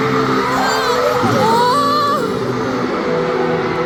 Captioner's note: on the verge of tears